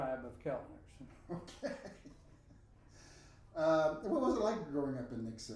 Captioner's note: laughing